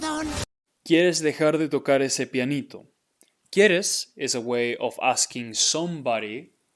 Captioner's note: speaking in Spanish